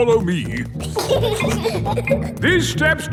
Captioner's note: giggling